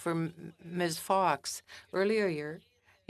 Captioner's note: speaking French